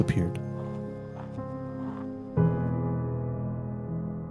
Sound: footsteps thudding; suspenseful music

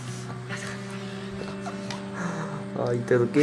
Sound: laughs

